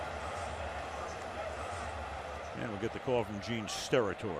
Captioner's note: pa announcement